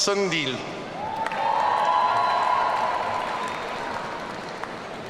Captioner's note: audience cheering